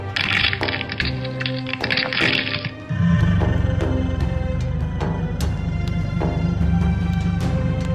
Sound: bones breaking

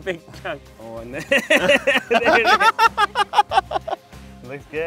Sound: laughs

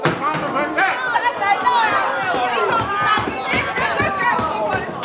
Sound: crowd erupts

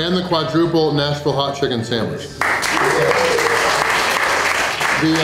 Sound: crowd clapping and cheering

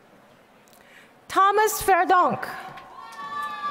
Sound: applause

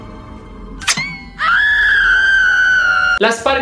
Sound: loud scream

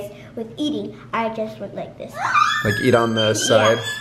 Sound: squealing

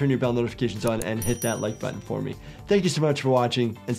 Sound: bell rings

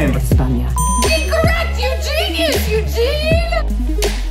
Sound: beep

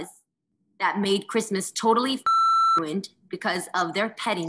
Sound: beep

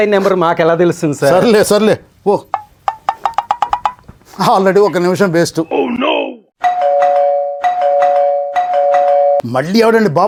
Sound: calling bell rings

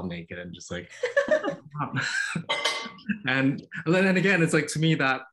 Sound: laughter

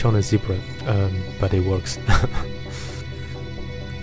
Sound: giggles

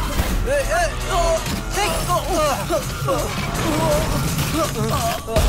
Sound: groans

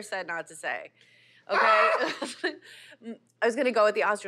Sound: laughs

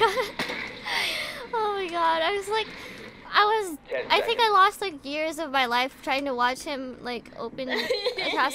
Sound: laughing

